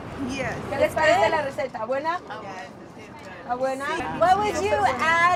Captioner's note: translator speaks in Spanish